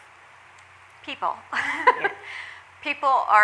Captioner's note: laughs